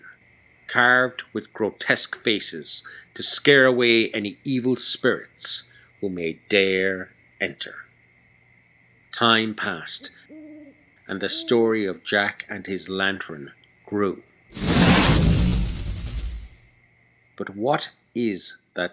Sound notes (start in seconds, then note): 14.5 flame whoosh